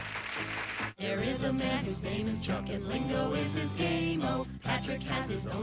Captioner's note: audience applauding